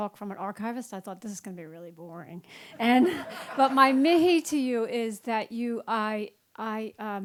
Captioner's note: laugther